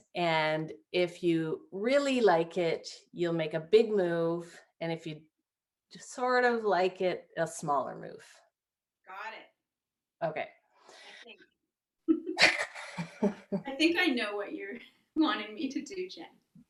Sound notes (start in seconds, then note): 12.1 laughing